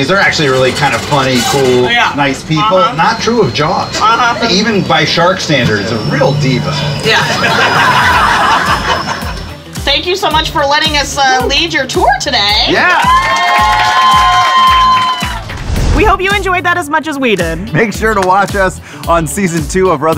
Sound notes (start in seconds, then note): 7.2 laughter; 12.9 applause